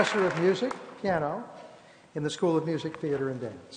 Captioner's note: applause